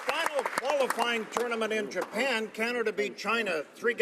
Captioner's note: applause